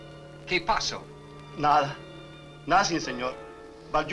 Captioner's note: Mario speaks Spanish